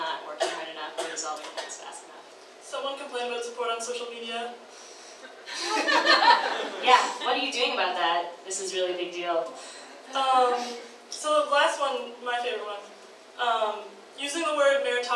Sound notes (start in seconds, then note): 5.4 audience laughs